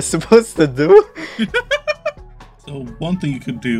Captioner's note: laughing